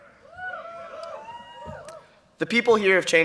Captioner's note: cheering